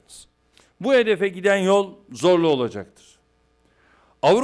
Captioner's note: non-english speech